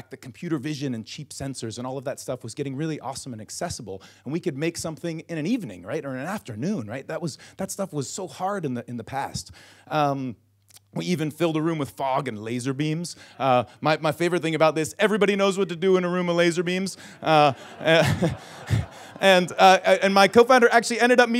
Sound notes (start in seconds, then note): 17.0 audience laughs; 17.2 laughs